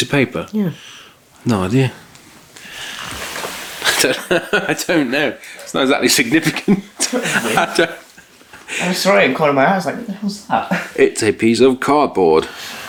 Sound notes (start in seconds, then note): 2.8 laughs